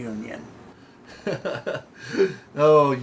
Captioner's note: laughing